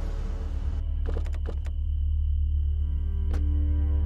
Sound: car doors opening

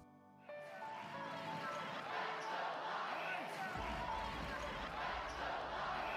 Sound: soft upbeat music; crowd applauding

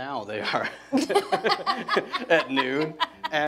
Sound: laughing

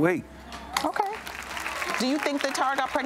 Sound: crowd applauds

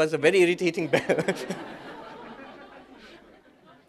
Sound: laughter

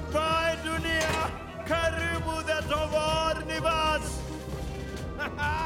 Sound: in foreign language

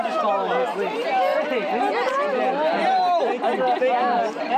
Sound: all chattering

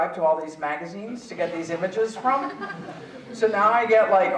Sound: audience chuckling

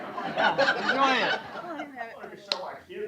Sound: laughter

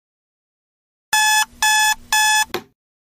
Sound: beep beep beep

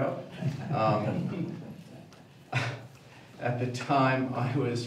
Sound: audience laughing

